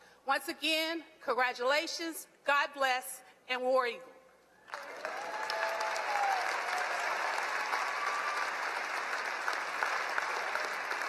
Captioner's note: applause